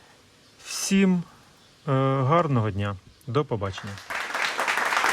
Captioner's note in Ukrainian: оплески